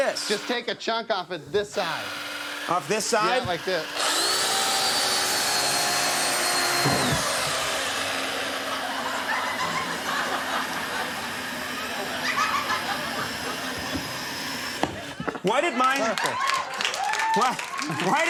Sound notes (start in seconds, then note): 4.2 chainsaw whirs; 12.9 audience laughs